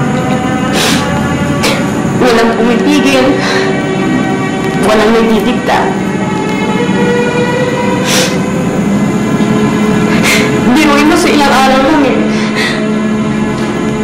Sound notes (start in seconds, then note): 0.6 sniffles; 7.8 sniffles, sobs